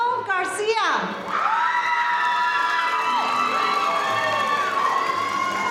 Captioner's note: audience cheering